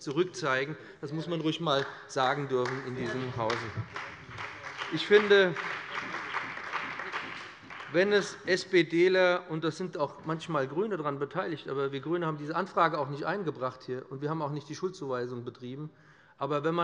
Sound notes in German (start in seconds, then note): 3.1 Beifall bei dem BÜNDNIS 90/DIE GRÜNEN und der CDU